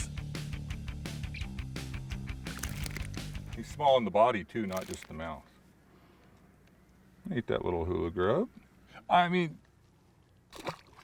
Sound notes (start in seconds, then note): 1.9 fish thrashing; 10.4 fish splashing